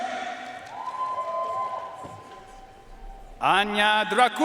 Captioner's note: audience cheering and applauding